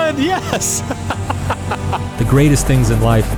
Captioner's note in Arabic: ضاحكاً